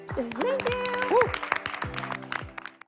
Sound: applause

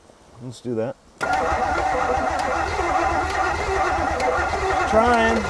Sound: vehicle engine clicking; vehicle engine humming

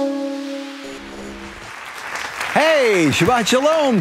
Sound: audience applauding

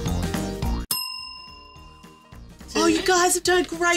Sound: bell dinging

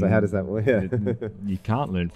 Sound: laughs

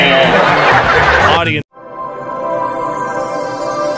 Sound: audience laughs; chimes

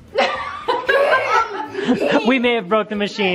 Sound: laughing

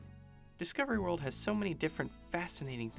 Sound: voiceover

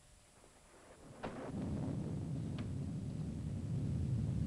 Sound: thunder rumbling

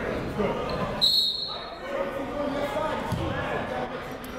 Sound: whistle

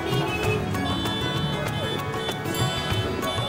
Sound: cars honking

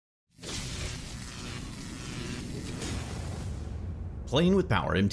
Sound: electricity zapping

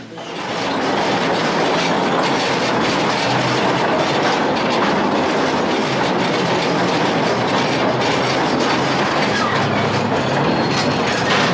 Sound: loud train noise

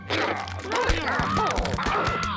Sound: panicked clucking

